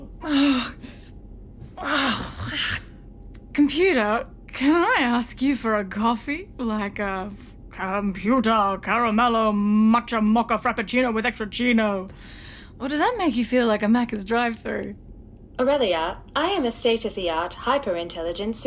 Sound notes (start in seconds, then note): 0.1 Aurelia stiffly sits up, GROANS; 6.6 Aurelia puts on a Captain Picard voice; 12.1 she speaks in her normal voice